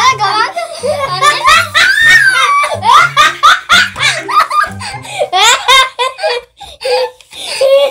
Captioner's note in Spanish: Risas